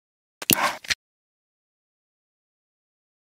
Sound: camera shutters

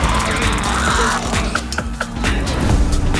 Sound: laugh

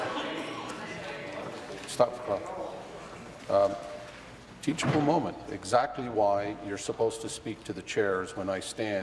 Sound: voice trailing

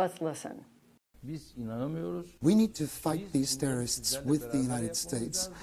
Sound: through translator

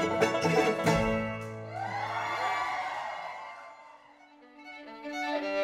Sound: cheers and applause

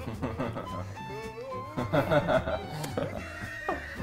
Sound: team laughs

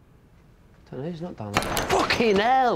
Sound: crashing

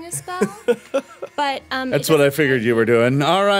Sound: chuckles

